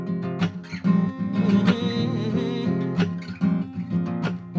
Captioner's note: humming